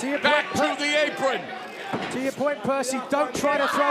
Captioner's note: none